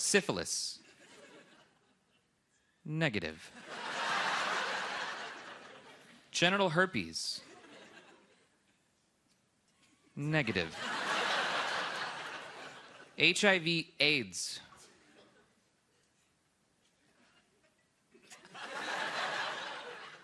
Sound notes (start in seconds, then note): 0.1 laughter; 11.6 laughter